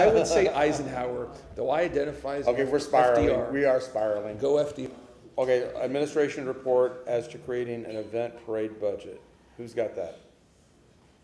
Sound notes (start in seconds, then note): 0.0 laughter